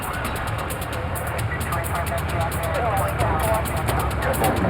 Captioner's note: police scanner